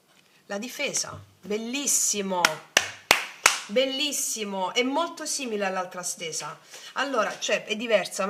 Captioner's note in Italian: applauso